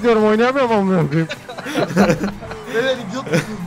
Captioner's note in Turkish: Kahkahalar